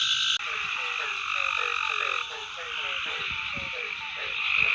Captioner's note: multiple frog calls